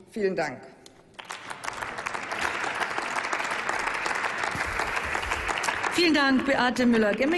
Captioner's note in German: Applaus